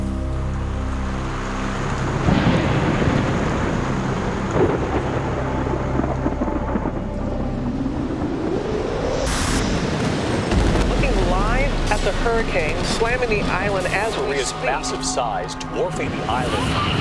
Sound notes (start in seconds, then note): 1.4 thunder rumbling; 7.7 wind whipping